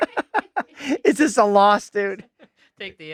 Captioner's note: laughing